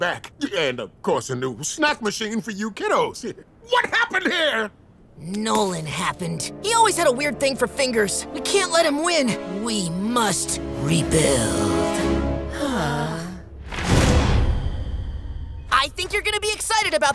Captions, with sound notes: And of course, the new snack machine for you kiddos. What happened here? Nolan happened. He always had a weird thing for fingers. We can't let him win. We must rebuild. [sighing] I think you're going to be excited about this one,